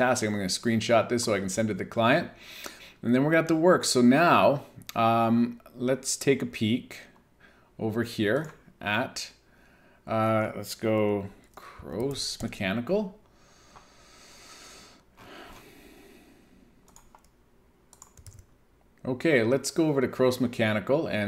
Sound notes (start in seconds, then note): 13.3 inhales; 13.5 sighs; 17.9 keyboard clicking